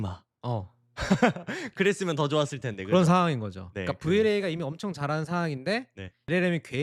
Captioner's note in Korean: 웃음